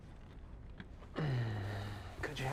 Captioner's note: uncomfortable sigh